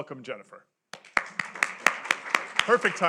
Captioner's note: applause